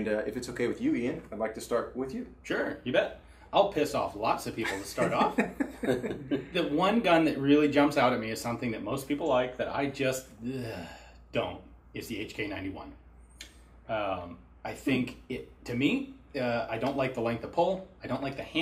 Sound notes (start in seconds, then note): 4.6 laughs; 10.4 sighs